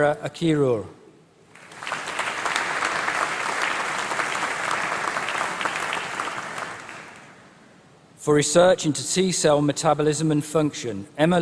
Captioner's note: applause